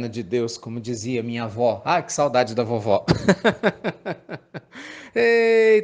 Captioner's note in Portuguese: Risos